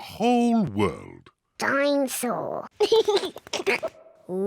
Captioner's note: giggles